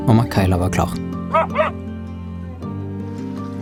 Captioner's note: KAYLA barks